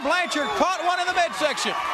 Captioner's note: crowd cheering